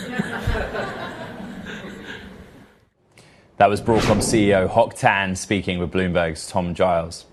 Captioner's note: laughter